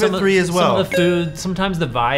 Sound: tone chimes

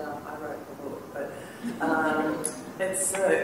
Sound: laughter

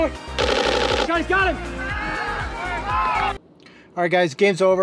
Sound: upbeat music; camera lens clicking

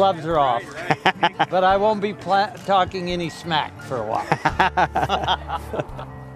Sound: laughter

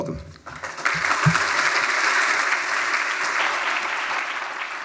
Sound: applause

